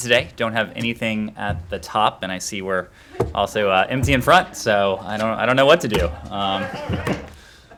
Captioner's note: laughter